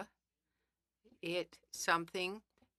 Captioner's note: speaking French